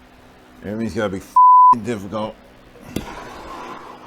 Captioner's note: beep